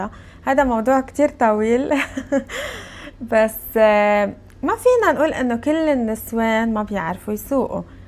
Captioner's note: laughs